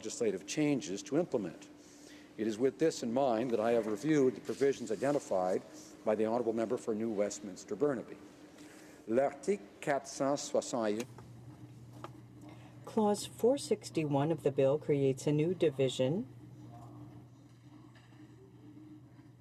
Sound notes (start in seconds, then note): 12.1 speaking French